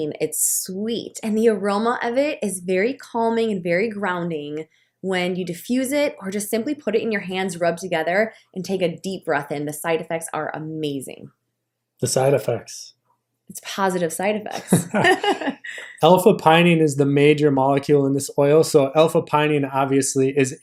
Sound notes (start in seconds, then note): 14.5 laughter